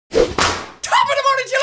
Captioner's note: wa-poosh